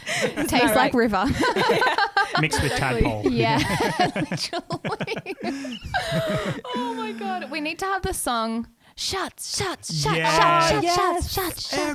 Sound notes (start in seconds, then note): 1.5 laughing together; 4.5 laughing together